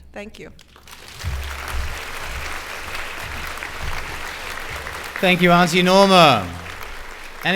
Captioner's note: applause